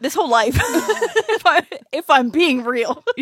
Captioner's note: laughs